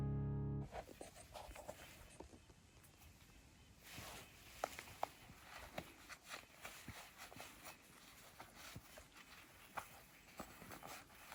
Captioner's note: object rustling